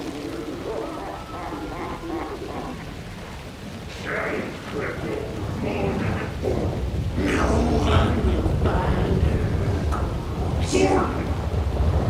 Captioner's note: crying